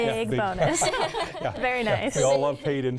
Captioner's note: laughing